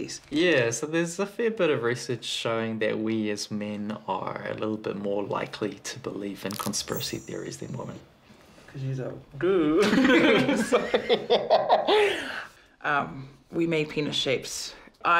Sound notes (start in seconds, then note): 9.8 both laugh; 11.6 laughs